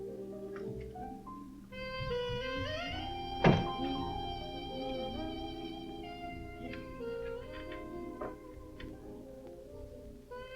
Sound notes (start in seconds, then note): 1.8 door opening; 3.5 door closing; 7.0 stool squeaking